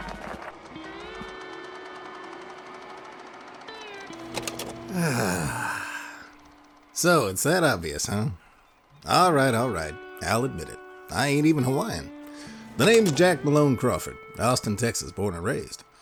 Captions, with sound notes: [sigh] So it's that obvious, huh? All right, all right, I'll admit it. I ain't even Hawaiian. The name's Jack Malone Crawford, Austin, Texas born and raised.